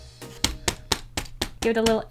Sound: pat pat pat

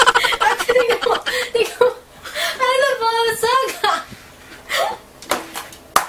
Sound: laugh

